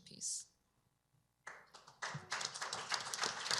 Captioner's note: applause